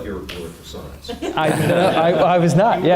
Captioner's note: audience laughing